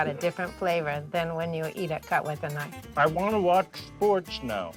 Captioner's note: speaking Italian